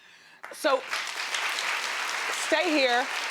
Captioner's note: audience applauding